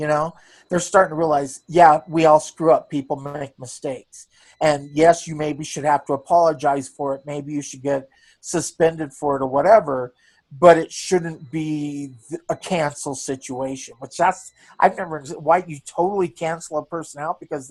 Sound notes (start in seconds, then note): none